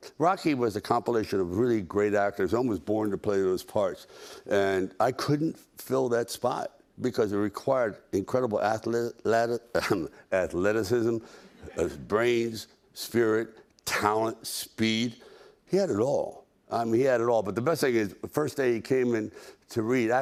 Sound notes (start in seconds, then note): 10.2 clears throat